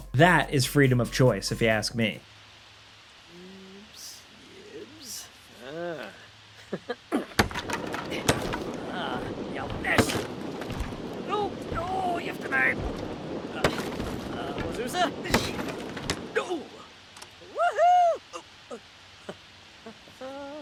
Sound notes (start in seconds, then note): 1.9 rain pattering; 3.6 Sim speaking Simlish; 6.4 chuckles; 7.1 Sim grunting; 7.4 door clattering; 19.1 chuckles